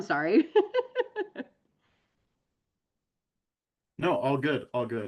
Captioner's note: laughs